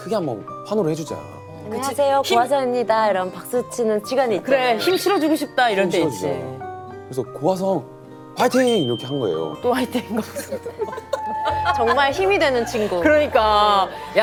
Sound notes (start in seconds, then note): 10.1 laughs